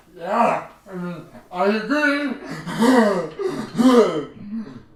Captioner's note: laughs